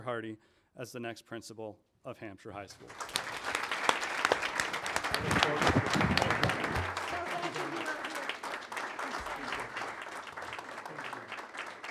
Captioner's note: applause